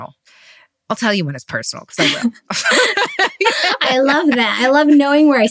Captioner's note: laughs